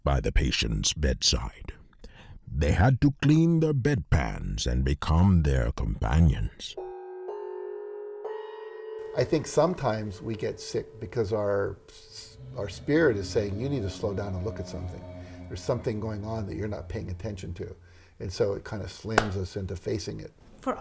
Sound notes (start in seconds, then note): 6.9 bells clanging; 12.9 tense music